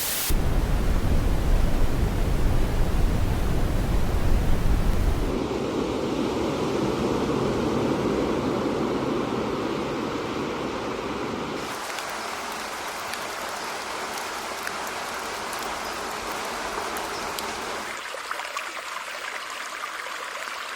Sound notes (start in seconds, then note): 0.1 dark static plays; 5.5 ocean waves crash; 11.6 rain falls; 18.0 water rushes